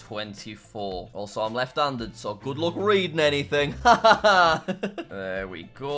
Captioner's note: laughs